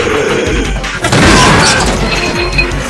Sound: B.O.B. Groans in Pain

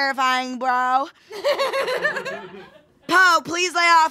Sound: laughing

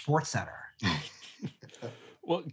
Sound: men chuckling

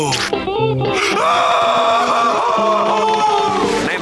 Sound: screaming

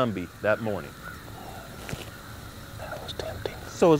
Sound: whispering

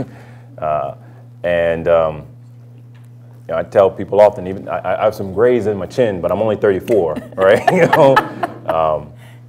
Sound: laughs

